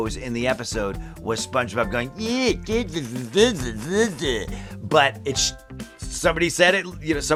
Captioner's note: mocking noises